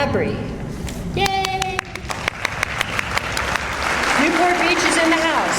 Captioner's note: audience applauds